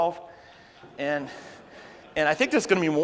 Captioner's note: audience laughs